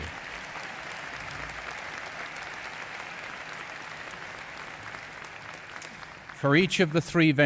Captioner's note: applause